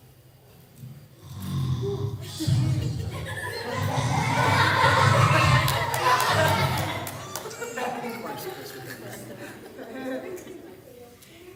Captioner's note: groaning and snoring, laughter